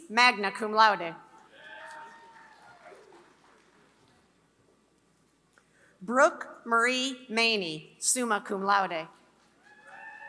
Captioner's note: applause; applause